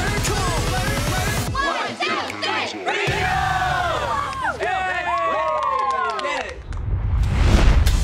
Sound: cheering

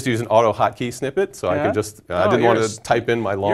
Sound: laugh

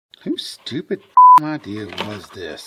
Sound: beep

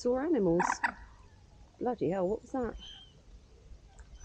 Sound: loud bird call

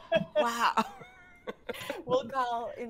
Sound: group laughing

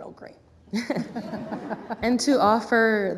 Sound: laughter

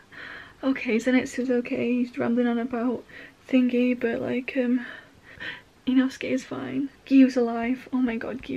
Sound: relieved sigh

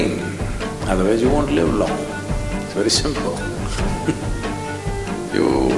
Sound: laughs

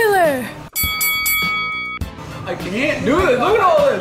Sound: ringing sound

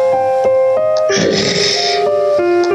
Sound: growl

